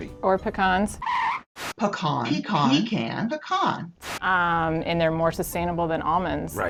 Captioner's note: record scratch